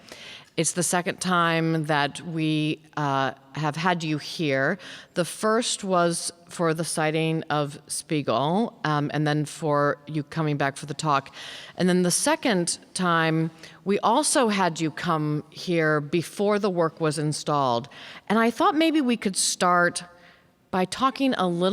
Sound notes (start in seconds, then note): none